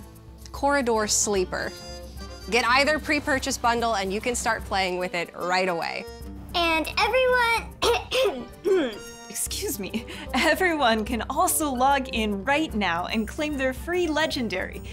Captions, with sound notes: Corridor Sleeper. Get either Pre-Purchase bundle and you can start playing with it right away. [in high-pitched voice] And everyone... Ahem! [in normal voice] Excuse me. Everyone can also log in right now and claim their free Legendary,